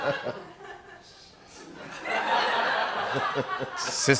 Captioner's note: laughter